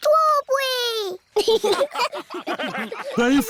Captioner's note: laughter